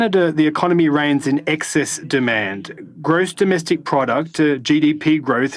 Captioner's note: speaking French